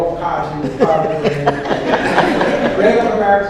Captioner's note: audience laughs